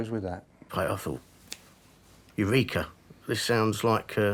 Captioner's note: snapping